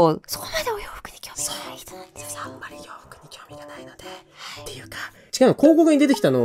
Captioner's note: Whispering of Saya